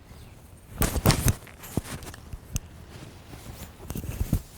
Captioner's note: clothes rustling